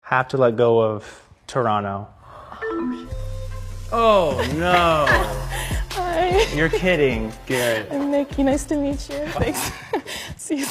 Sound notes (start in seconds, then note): 2.8 error beep dings; 4.2 laughs; 9.9 laughs